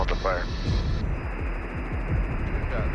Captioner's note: static hissing